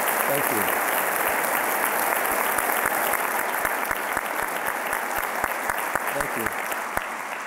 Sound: applause

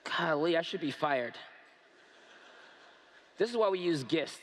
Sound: laughter

